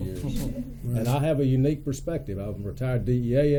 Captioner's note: laughter